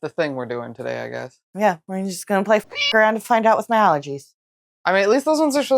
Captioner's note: meow